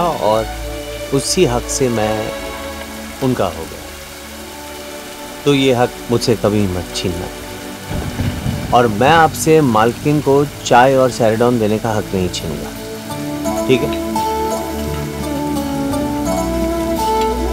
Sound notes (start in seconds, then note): 7.8 Clouds thundering